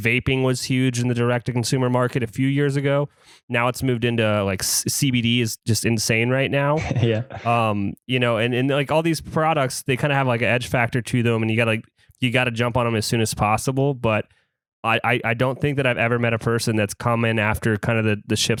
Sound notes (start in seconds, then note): 6.7 laughs